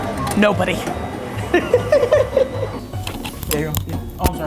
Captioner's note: laughs